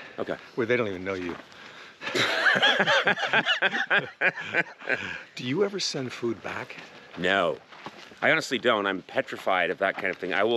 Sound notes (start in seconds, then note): 2.0 both laughing